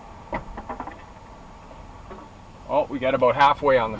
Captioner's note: board clattering